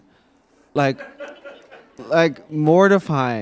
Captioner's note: attendee laughing